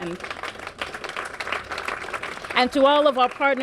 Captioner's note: applause